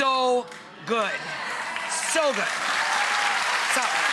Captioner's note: audience applauding